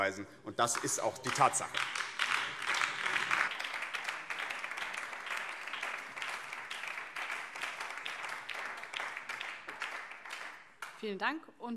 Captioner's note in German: Beifall BÜNDNIS 90/DIE GRÜNEN